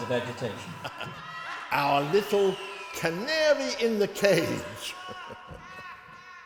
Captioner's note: Van Helsing laughs